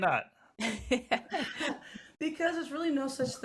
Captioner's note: laughing